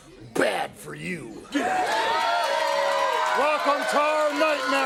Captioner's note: crowd cheering